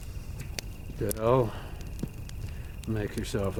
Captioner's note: crickets chirping